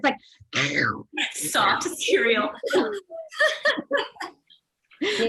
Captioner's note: laughs